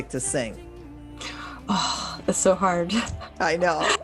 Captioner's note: sighs